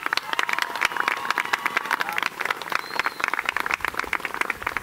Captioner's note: applause